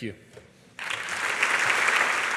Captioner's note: applause